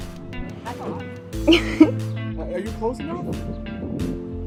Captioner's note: giggling